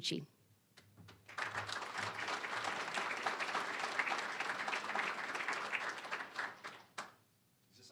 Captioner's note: applause